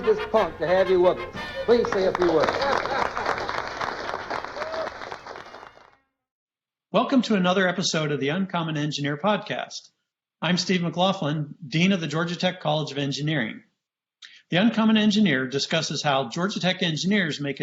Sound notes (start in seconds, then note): 1.6 applause